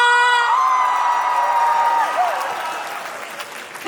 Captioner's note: cheering; applause; cheering